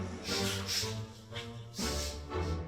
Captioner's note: sniffs